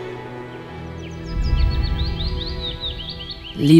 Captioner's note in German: Vogelgezwitscher